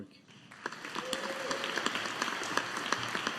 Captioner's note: audience applauding